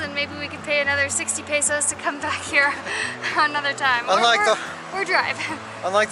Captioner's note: laughter